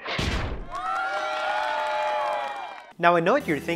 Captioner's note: cheering loudly